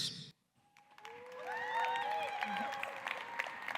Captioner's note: cheers and applause